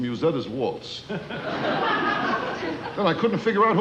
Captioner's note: audience laughing